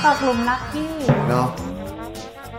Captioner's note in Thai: เสียงเอฟเฟกต์